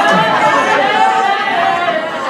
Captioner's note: laughter